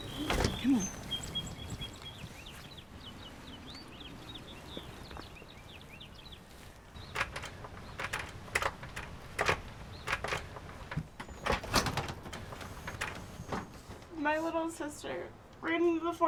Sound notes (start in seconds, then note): 1.3 birds chirping; 7.0 clattering